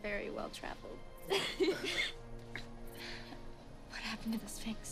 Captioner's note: Karen laughing